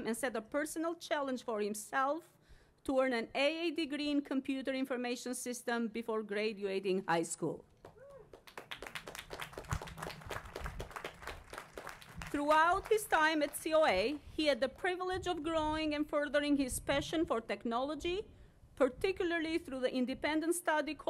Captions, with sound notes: and set a personal challenge for himself to earn an A degree in computer information system before graduating high school. [APPLAUSE] Throughout his time at COA, he had the privilege of growing and furthering his passion for technology, particularly through the independent study